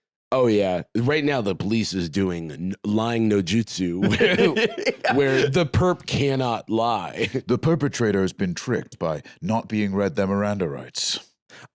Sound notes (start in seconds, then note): 4.0 laughing